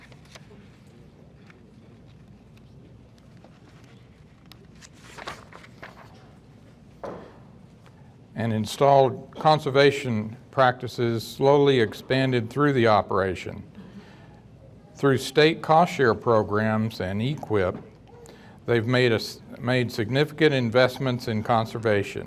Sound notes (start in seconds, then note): 3.1 page rustling